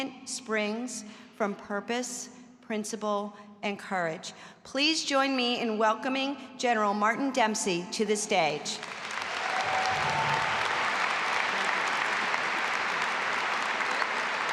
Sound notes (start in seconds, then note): 8.8 audience applauding and cheering